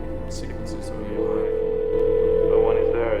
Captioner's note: dial tone ringing